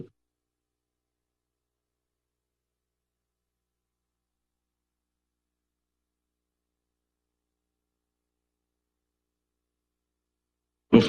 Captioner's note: silence